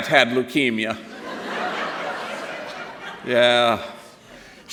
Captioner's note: laughter